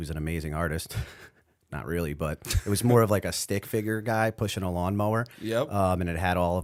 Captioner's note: chuckle